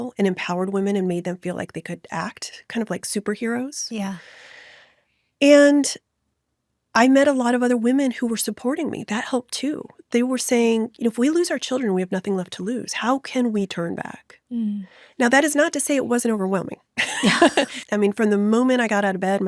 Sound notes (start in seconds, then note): 17.0 chuckles